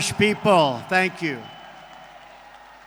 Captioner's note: applause